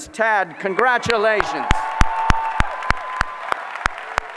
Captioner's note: applause